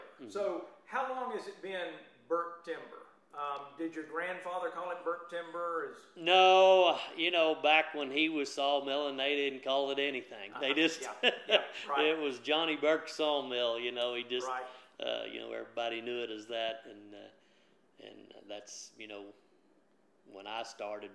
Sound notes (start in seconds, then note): 0.0 laughs; 10.6 laughs